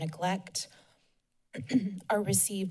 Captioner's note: clears throat